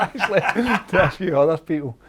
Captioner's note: laughing